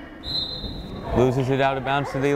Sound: whistle blows

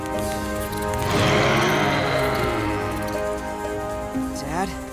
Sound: roaring

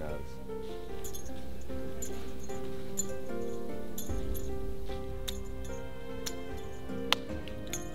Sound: bell continues to clink; confused stammer

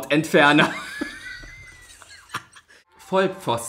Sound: laughs

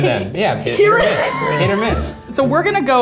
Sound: laughs

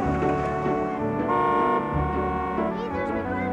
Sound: car horn honks

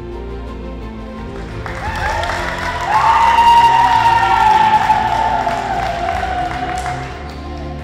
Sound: audience cheers

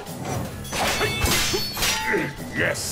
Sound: grunting

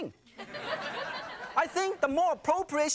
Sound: audience laughing

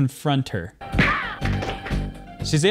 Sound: screaming

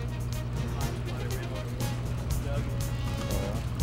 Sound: indistinct chatter

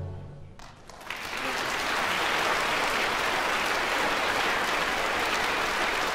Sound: applause

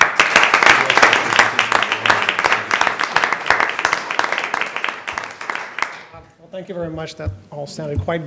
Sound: applause

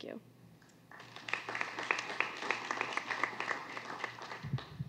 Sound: applause

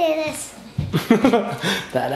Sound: laughs

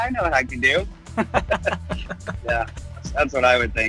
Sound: laughs

